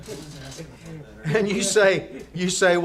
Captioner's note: laughter